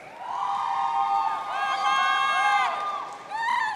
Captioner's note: audience cheering